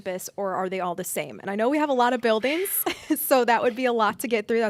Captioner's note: chuckles